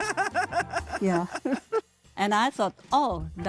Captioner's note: giggles; laughing